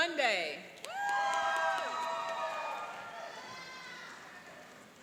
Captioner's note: cheering and applauding